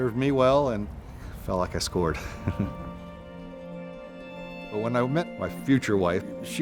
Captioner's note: chuckles